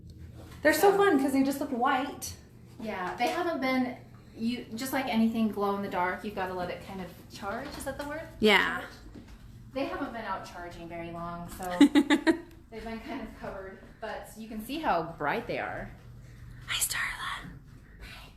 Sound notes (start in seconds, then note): 11.6 laughs